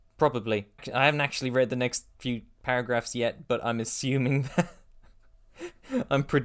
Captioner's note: laughter; laughing